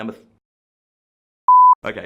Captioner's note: beep